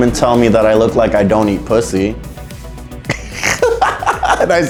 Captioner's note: laughing